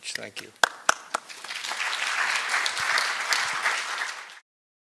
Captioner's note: applause